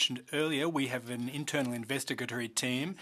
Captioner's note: speaking French